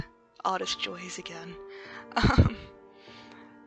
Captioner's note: chuckles